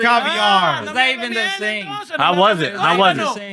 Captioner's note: speaking Spanish